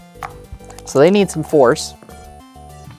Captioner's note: dice rattling; dice rolling